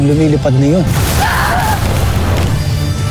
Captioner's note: fire blasting; growls